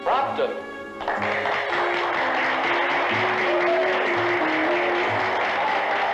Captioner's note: applause